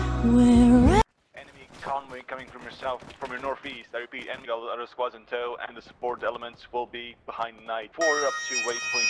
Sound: radio chatter; bagpipes rendition

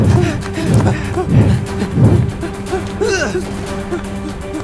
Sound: sounds of exertion

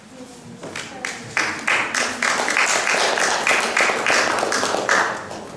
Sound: audience clapping

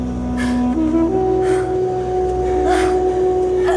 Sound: gasps

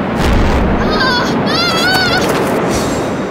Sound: yells

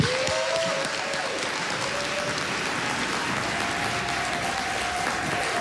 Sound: cheering, applause

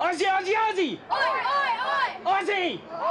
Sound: crowd

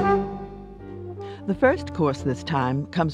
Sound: voiceover

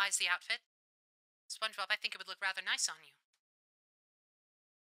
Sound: radio Filter

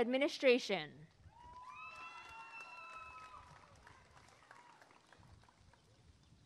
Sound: applause and cheering

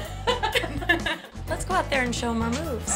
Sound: laughter

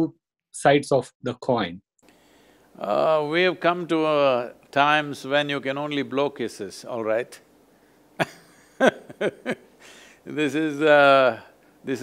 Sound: laughs

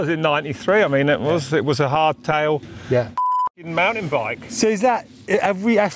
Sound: beep

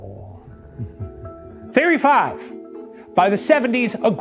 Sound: snickers

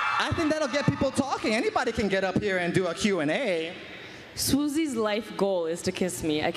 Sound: cheering

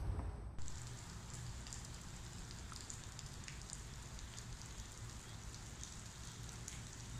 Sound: rain

